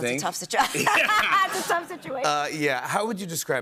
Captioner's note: laughter